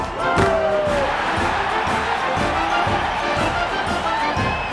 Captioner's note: crowd cheering